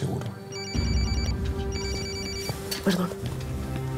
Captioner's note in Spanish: Suena el celular